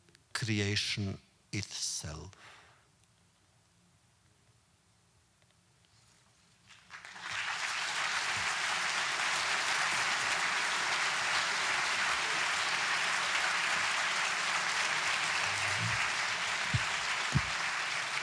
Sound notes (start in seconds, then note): 6.9 audience applause